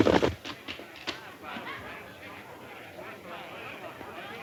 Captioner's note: patrons chatting